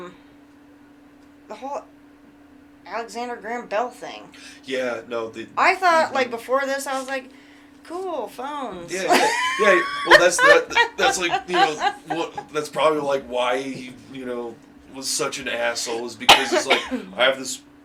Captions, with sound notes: um, the whole Alexander Graham Bell thing. Yeah, no. I thought, like before this, I was like, "Cool, phones." (Laughing) Yeah, well, that's like, you know, probably, like why, you know, he was such an asshole, because he was like, "I have this